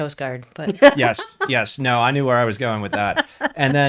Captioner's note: laughs